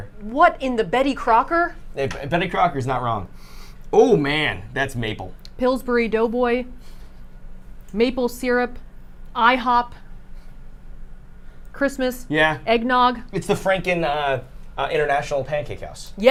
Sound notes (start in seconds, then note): 3.5 sniffs